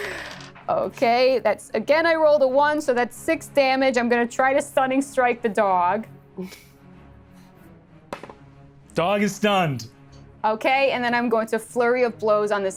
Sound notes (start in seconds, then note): 8.2 dice rattles